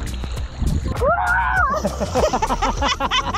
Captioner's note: shouts; both laugh